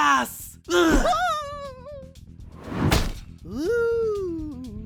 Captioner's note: silver spoon screams